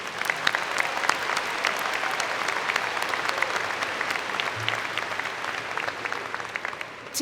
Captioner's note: applause